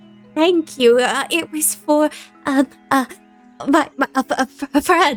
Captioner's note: stammering